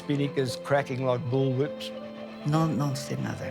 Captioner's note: in Spanish